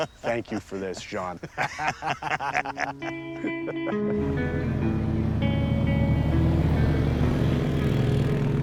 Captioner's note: laughing